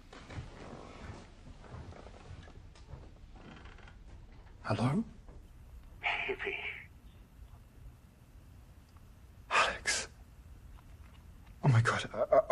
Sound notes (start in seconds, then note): 4.7 on phone